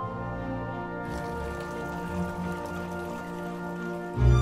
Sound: classical music playing; rippling water

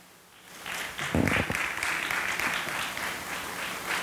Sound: audience applauding

